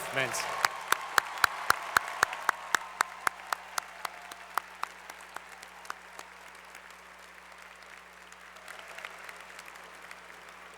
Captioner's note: applause